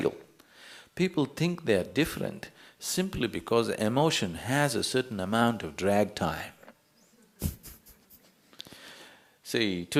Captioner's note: يضحك